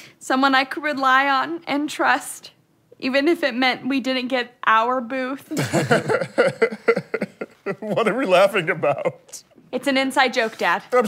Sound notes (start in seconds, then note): 5.6 laughing; 5.6 chuckling